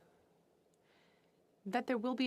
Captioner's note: speaking french